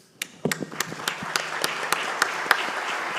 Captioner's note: all applaud